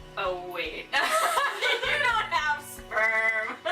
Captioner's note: laughter